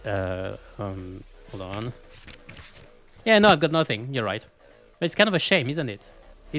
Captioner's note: flipping pages